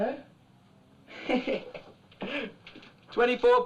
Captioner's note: chuckling